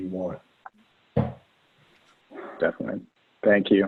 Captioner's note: hourglass thudding